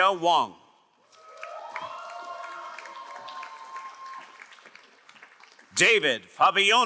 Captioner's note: crowd cheering and applauding